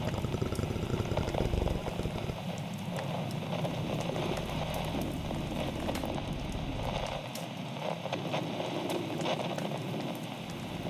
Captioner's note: purrs fx throughout the closing